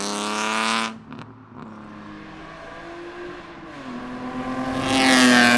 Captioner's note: obnoxiously loud car exhaust sounds; fly by exhaust sounds